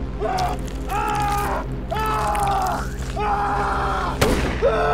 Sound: screaming

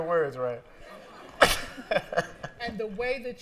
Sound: laughs

